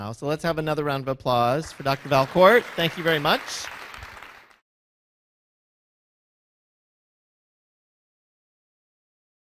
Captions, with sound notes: So let's have another round of applause for Dr. Valcourt. Thank you very much. (applause)